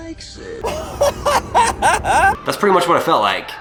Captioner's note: laughs